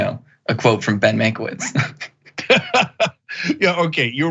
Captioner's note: laugh